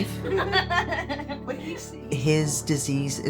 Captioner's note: all laugh